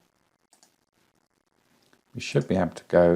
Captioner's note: mouse clicking